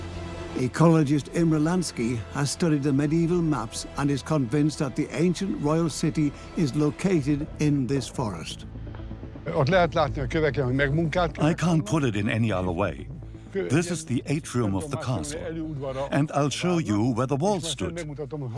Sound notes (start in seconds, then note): 9.5 in Hungarian; 11.0 dubbed in English